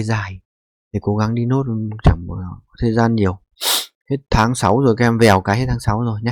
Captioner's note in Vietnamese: khịt mũi